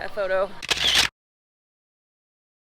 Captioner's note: camera Shutter Sound